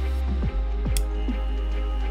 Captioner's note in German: epische Musik; Brummen; epische Musik; Klick!